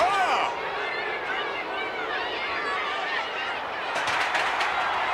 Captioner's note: crowd chattering